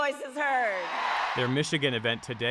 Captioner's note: cheering; applause